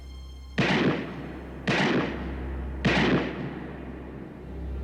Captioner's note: gunshots ringing